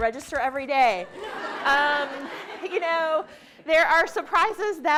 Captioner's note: participants laughing